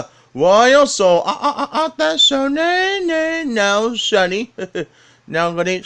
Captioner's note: laughs; laughs